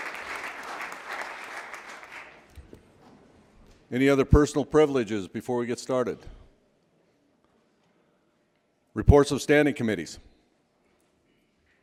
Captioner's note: applause